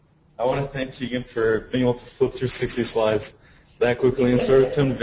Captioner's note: audience laughs